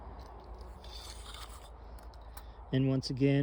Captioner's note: tape measure swishes